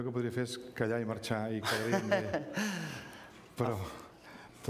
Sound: speaking catalan; laughs

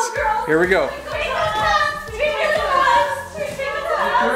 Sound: cheering

